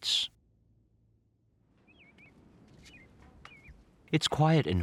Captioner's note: birds chirping